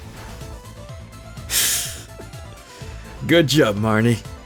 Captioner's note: disappointed Sigh/Giggle